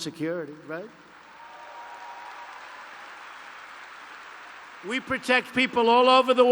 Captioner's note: applause